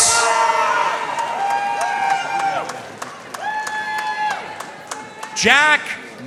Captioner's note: audience cheering and applauding